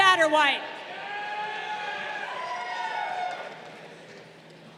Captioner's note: crowd cheering